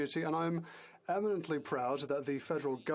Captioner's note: speaking French